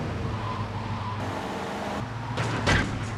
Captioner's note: sirens wailing